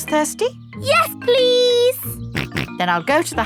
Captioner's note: snorts